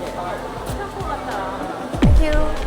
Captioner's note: heart pounding